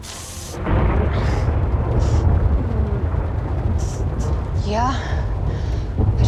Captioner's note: thunderclap